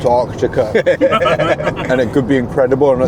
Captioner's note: laughter